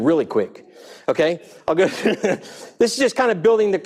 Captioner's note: laughing